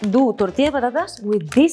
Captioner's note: speaks in Spanish